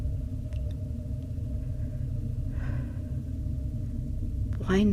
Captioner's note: heavy sigh